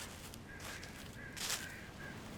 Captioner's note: crows cawing; leaves rustling